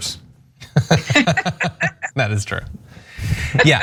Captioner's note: laugh